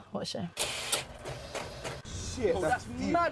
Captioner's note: movie projector clicking